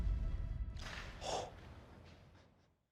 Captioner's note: forceful exhale